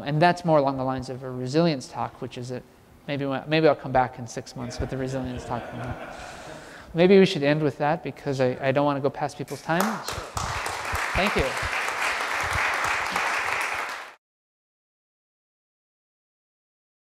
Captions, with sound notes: And that's more along the lines of a resilience talk, which is a, maybe when, maybe I'll come back in six months with the resilience talk. [LAUGH] >> [LAUGH]. Maybe we should end with that because I, I don't want to go past with people's time. [APPLAUSE] Thank you.